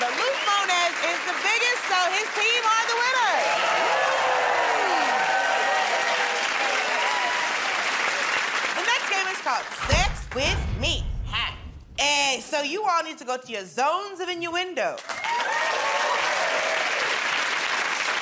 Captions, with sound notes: but Luke Mones is the biggest, so his team are the winners. [ Cheers and applause ] The next game is called... Hey! So you all need to go to your Zones of Innuendo. [ Cheers and applause ]